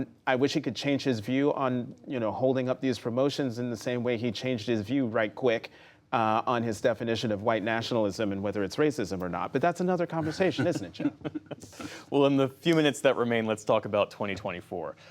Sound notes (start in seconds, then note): 10.2 laughter